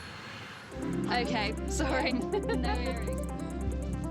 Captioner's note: chuckling